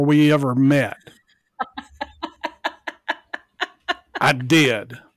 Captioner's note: laughs